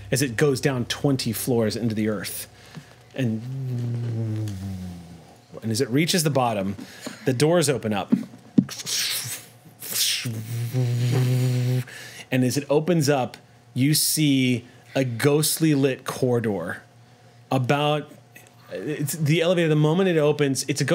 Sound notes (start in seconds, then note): 3.1 hums; 9.2 hums